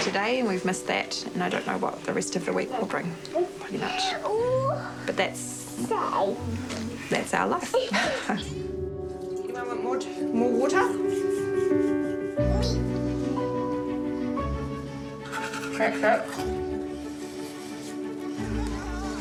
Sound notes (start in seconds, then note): 7.6 chuckles; 10.9 toothbrush rustles; 14.0 gentle music; 15.2 toothbrush rustles